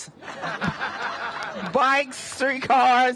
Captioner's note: laughter